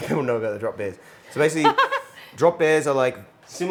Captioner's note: chuckles